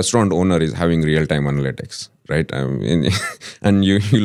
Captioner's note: laughs